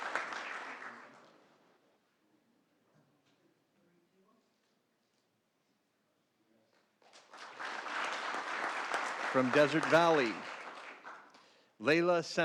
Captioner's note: applause